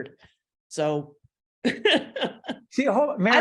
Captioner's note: laughing